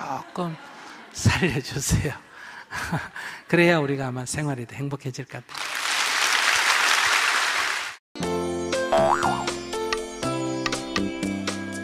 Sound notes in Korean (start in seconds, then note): 2.8 웃음; 5.5 청중 박수